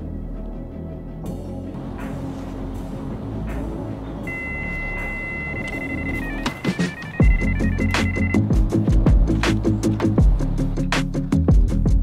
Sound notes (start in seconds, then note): 4.2 electronic beeping; 6.8 exciting upbeat music